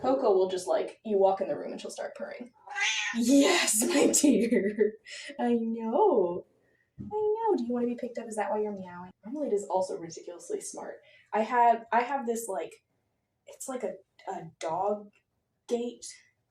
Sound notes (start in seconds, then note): 2.6 Marmalade meows